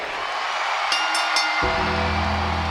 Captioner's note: crowd cheers; bell dings; bell tolls